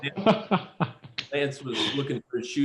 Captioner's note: laughter